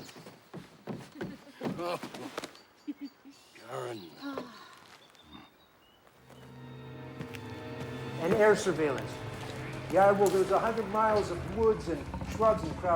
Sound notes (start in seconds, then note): 2.8 both laugh; 6.2 suspenseful music